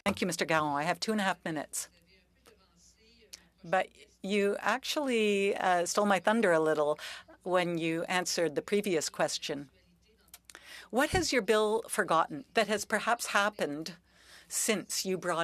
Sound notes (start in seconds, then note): 6.7 speaking French